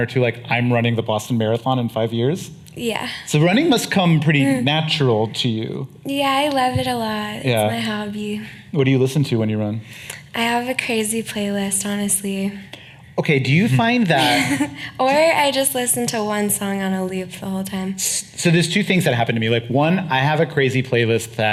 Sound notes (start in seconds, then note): 14.0 chuckling